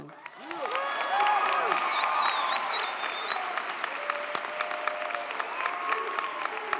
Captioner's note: audience applauds; audience cheers